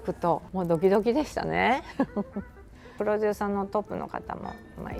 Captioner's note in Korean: 웃음